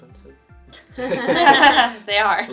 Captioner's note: laughter